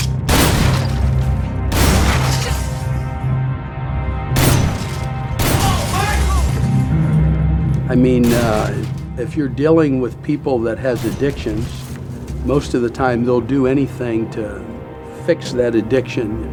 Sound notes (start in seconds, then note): 1.6 gun fire; 5.3 yelling